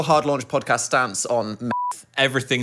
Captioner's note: beep